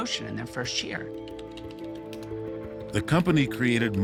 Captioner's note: typing